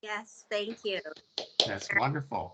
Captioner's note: clapping